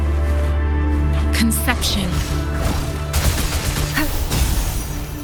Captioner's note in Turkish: Çatışma sesleri